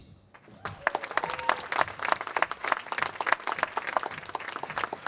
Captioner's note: applause